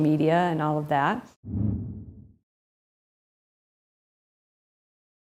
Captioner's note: air whooshing